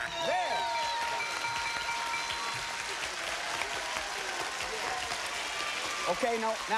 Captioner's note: cheers and applause